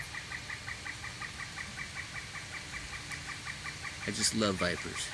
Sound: noisy woodpecker continues

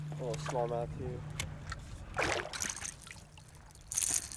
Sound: fish splashing; tackle rattling; whispering

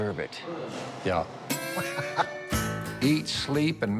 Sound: laughs

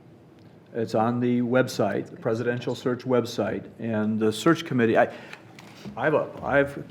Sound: none

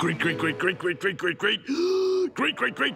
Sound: gasping

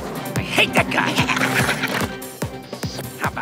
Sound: chuckling

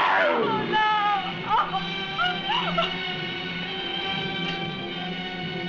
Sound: yelling; crying

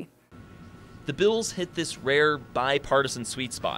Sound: voiceover

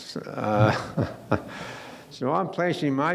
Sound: laughing

